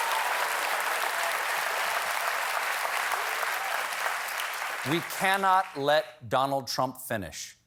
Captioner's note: cheers and applause